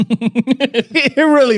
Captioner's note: laughing